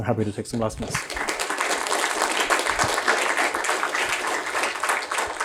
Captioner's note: applause